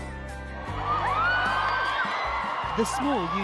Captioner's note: crowd cheering; voiceover